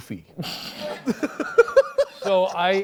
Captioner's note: laughs